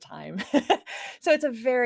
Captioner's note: laughs